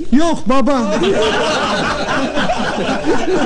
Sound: laughing

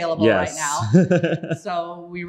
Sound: laughs

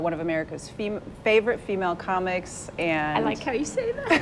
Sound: laughs

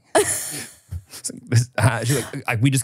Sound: laughs

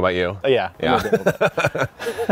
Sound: both laughing; voice muffling

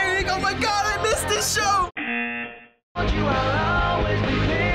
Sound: buzzer

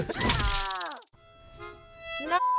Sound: person screams

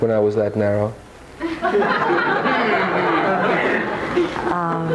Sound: audience laughing

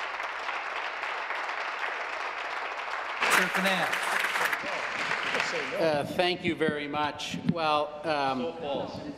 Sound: applause

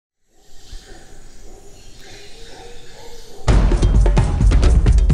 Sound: birds chirping; upbeat percussive music

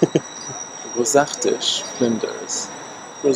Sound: foreign Language

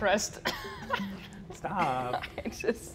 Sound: laughs

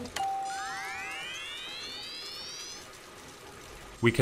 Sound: machine whirs; bell dings

